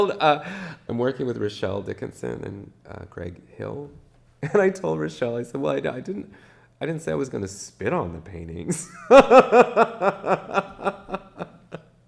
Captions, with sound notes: And they told, I'm working with Rachelle Dickenson and Greg Hill. And I told Rachelle, "Well I didn't say I was going to "spit on the paintings." (laughs)